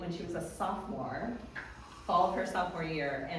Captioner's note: none